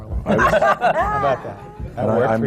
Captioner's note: laughter